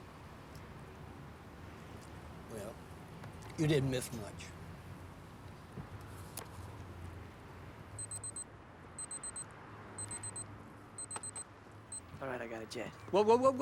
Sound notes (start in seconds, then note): 9.0 watch beeping